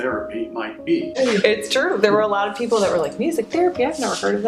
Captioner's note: laughs